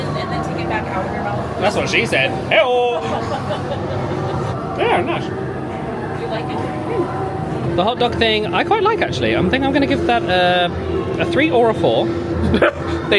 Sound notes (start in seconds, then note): 3.0 laughing